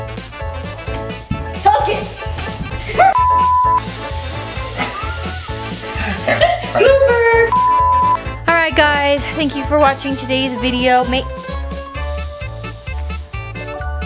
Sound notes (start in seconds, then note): 2.8 laughing; 3.1 beep; 3.8 laughing; 7.5 beep